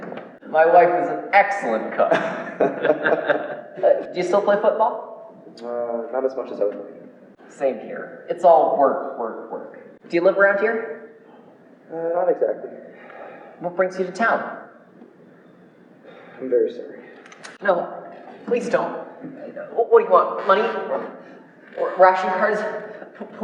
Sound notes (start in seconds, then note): 1.9 Jan and Boekel laugh; 12.9 sighs